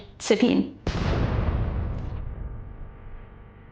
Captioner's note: gun firing